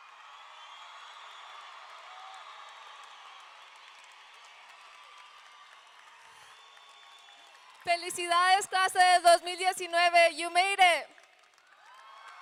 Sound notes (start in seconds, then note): 0.0 audience cheering; 0.6 audience clapping; 7.9 speaking in foreign language